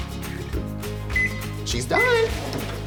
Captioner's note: microwave beeps